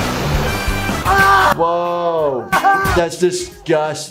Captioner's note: Steve-O yelling